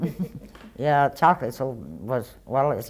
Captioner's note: laughter